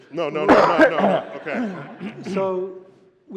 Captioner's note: laughter